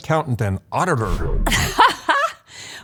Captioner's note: laughs